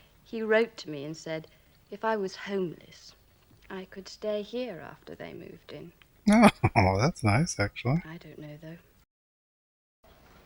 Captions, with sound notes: [Chuckling] Oh. Well, that's nice, actually.